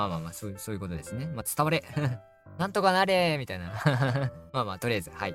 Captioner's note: laughs